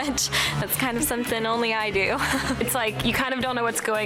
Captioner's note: laughs; laughs